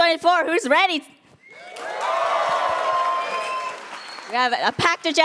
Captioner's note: cheers